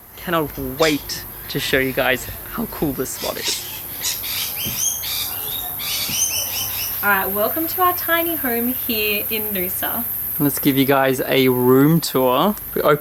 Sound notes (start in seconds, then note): 3.9 birds chirping